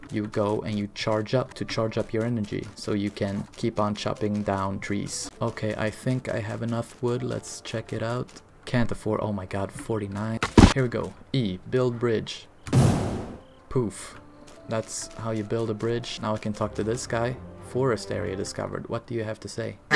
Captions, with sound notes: you go and you charge up to charge up your energy so you can keep on chopping down trees okay i think i have enough wood, let's check it out "Can't afford"- oh my god, 49? here we go... "E - Build bridge" *POOF* poof, that's how you build a bridge now i can talk to this guy "Forest Area Discovered"... what do you have to say?